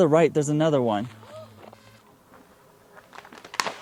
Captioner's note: gasping